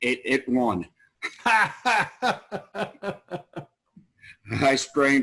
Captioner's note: laugh